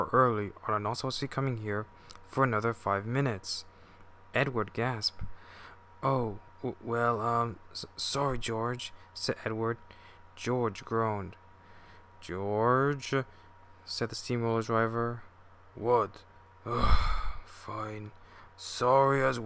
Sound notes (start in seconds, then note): 5.3 gasp; 16.7 groan